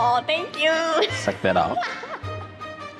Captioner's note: laughs